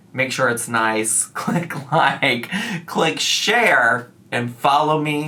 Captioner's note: laughs